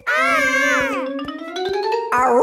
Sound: kids yelling

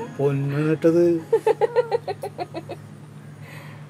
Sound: laughing

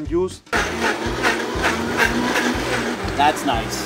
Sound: blender whirs

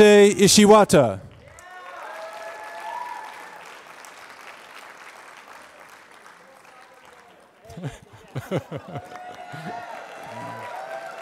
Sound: applause

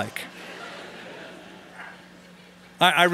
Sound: laughter

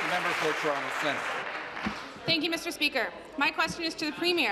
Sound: applause

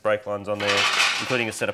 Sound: metallic clattering

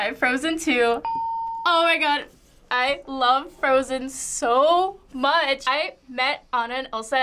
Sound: ding

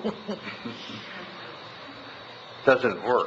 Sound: laughs

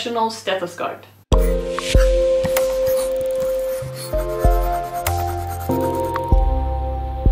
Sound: slow music; pencil scratching

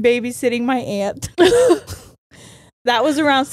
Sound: both laughing

